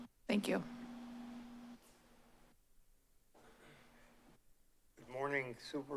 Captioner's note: silence